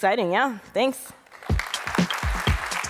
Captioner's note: applause